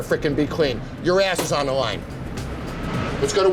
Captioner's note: hand banging